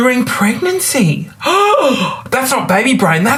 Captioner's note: gasps